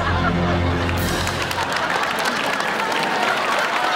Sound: clapping

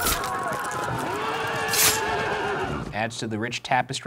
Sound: swords slicing; horses neighing

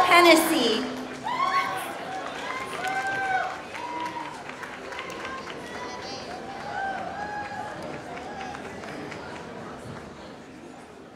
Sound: applause; applause

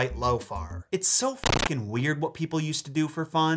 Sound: static crackles

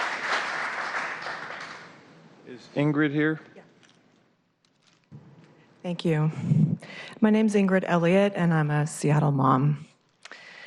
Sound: applause

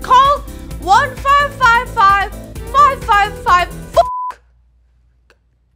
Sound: beep

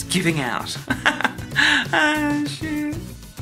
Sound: laughs

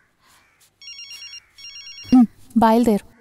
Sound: phone rings

